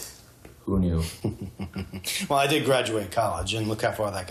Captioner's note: laughs